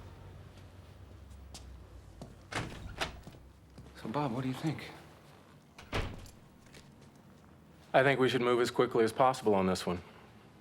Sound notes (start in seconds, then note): 2.5 door opens